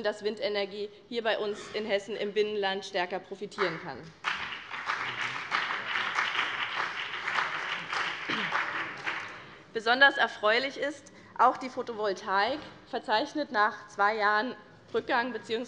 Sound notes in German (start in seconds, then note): 4.1 Beifall BÜNDNIS 90/DIE GRÜNEN